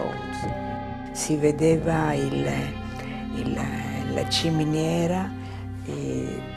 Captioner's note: speaking in foreign language